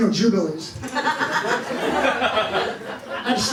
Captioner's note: laughter